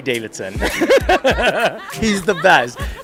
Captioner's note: boisterous laughing